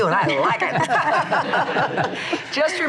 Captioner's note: laughs